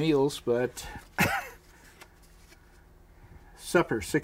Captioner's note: chuckles